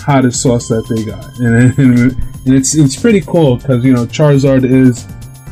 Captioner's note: chuckles